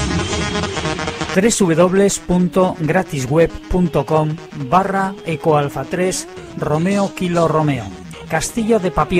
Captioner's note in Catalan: Veu en off